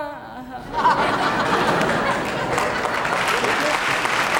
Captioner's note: audience laughing; audience clapping